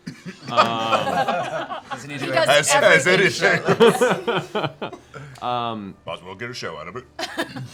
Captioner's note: laughs